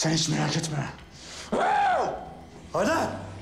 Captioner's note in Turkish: Bağırır